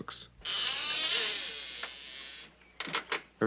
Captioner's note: door creaking